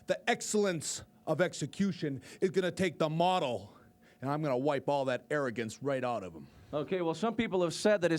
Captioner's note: none